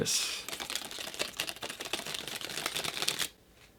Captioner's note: pitter-pattering